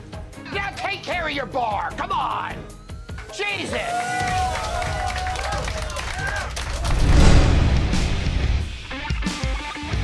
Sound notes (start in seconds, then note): 3.2 patrons cheering; 5.6 dramatic music